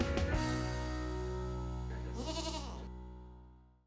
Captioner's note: Maybel bleat